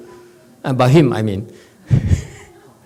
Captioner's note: laughs